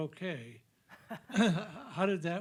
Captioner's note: laughing